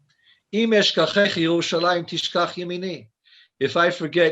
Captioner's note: speaking foreign language